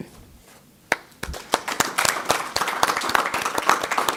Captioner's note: applause